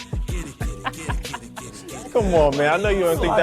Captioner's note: Richard laughing